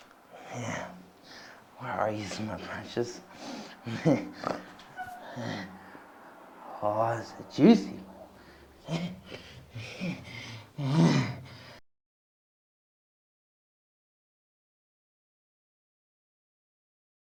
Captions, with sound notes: - Yeah. Where are yous, my precious? Oh, that's a juicy one. (grunts idly)